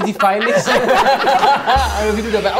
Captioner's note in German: Lachen, Tusch